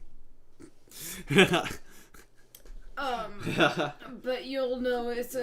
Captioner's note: laughing